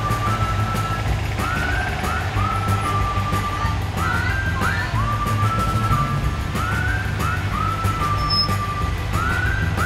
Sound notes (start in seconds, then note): 3.8 woman shouting; 6.8 upbeat music